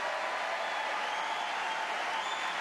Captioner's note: applause